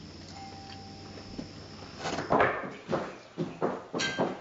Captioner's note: doorbell ringing